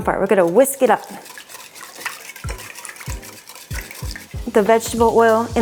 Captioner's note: stirring sound